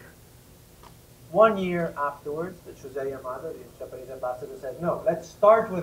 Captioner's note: ? Japanese ?